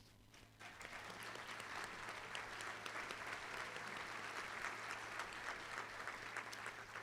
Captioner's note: applause